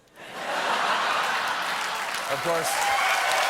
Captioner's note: applause; laughter; cheers